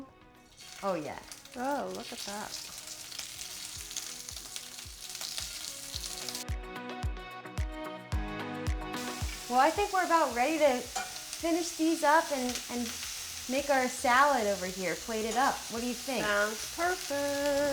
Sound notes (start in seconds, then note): 3.0 shrimp sizzling; 6.0 upbeat music